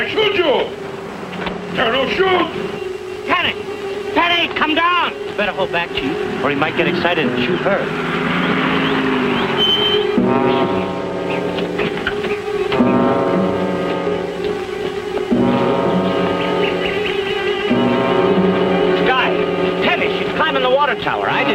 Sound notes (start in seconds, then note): 9.1 car revving; 9.1 tense orchestral music